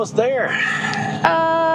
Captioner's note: heavy Sigh